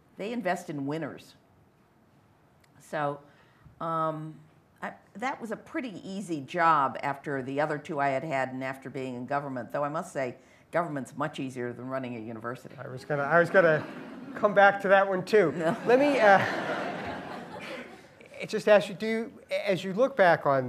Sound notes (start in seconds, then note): 15.5 laughter